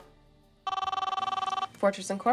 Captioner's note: phone rings